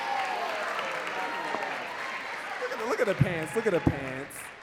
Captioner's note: audience cheering and clapping